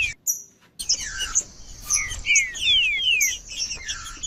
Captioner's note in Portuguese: trinca ferro cantando